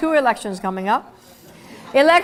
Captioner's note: laugh